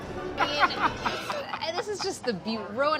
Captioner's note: laughing